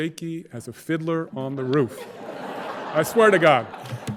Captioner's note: audience laughing